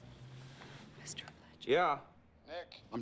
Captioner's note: whispering